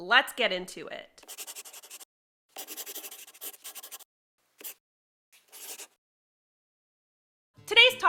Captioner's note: the sound of a pen scratching. LOGO